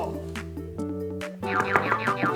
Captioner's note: knock Knock